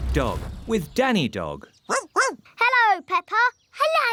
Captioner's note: barking